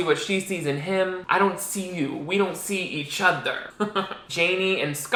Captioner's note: chuckles